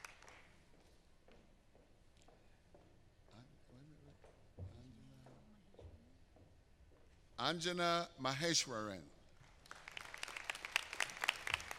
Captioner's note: applause